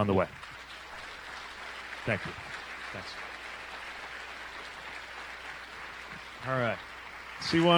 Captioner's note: applause